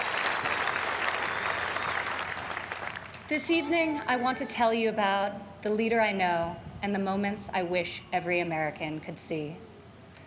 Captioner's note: applause